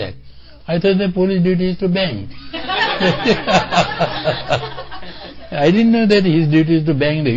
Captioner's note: laughter